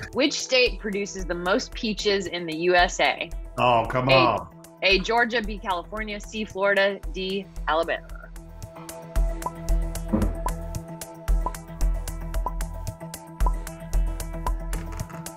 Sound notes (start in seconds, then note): 10.2 timer beeping; 11.3 tense music